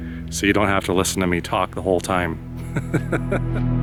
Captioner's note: laughter